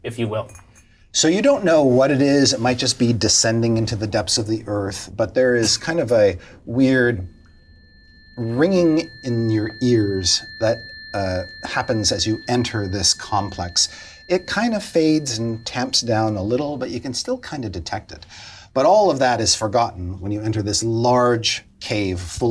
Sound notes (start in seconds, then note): 10.4 ringing sound effect plays